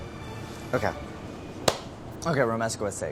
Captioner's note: claps hands